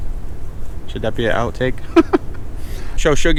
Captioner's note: laughs